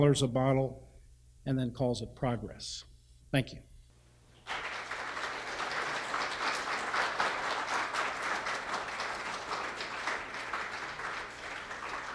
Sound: applause

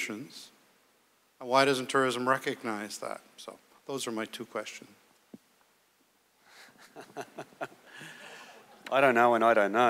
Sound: chuckles

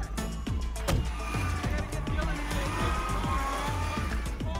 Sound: lively chatter

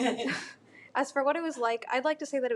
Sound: laughs

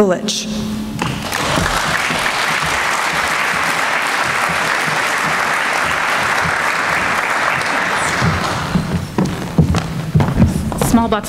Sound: applause

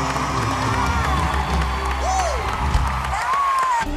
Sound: cheers and applause

